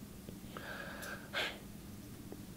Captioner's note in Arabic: تتنهد